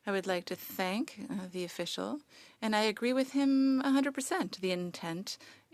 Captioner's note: speaking French